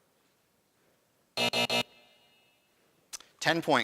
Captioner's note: buzzing